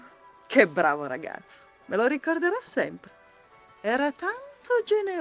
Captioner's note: speaking foreign language